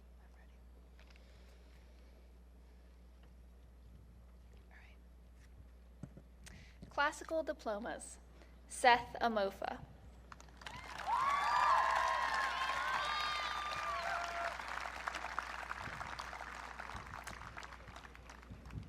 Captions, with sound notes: - Classical diplomas, Seth Amofa. (audience cheering)